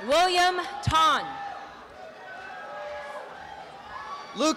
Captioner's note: applause